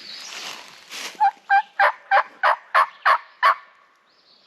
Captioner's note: imitates bird